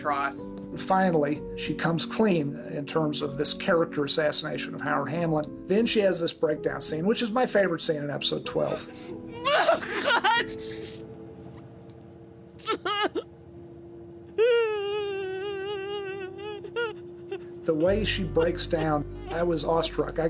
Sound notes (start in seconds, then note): 12.6 sobbing